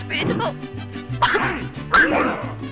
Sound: realistic Crying

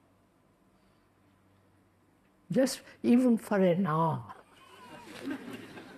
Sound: laughter

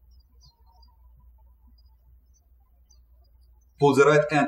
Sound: birds chirping

